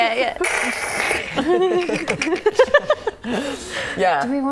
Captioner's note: laughing